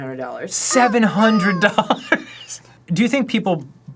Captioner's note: laughing